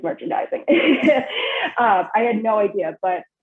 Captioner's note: laughs